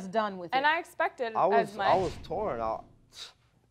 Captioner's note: stuttering